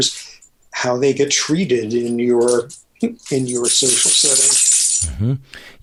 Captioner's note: laughs